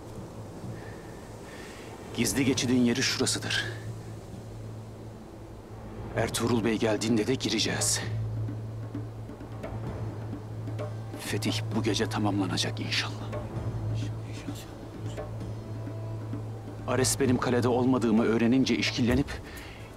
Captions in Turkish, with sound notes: Gizli geçidin yeri şurasıdır. Ertuğrul Bey geldiğinde de gireceğiz. Fetih bu gece tamamlanacak inşallah. (Hepsi bir ağızdan) İnşallah. Ares benim kalede olmadığımı öğrenince işkillenip...